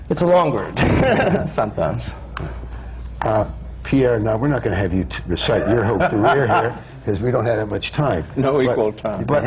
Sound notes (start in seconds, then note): 1.5 laughs; 5.4 laughs